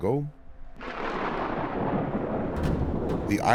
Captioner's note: thunder crackles